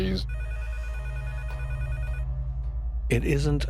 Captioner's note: phone ringing